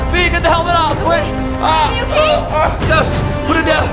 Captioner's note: shouts